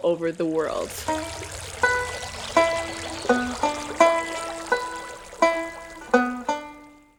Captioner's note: running Water